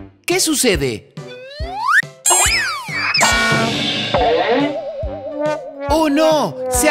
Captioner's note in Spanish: Sonido de golpes